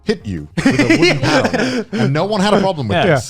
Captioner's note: laughing